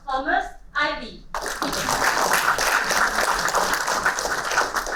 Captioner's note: applauding